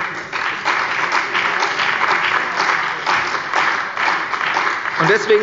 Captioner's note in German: Beifall bei der CDU und dem BÜNDNIS 90/DIE GRÜNEN